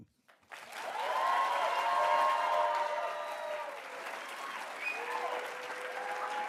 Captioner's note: attendees cheering and applauding